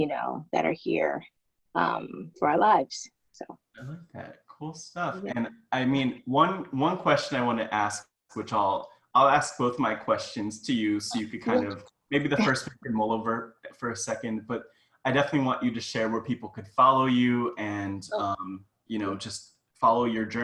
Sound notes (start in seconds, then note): 12.2 chuckles